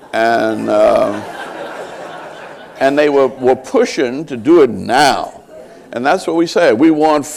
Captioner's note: laughter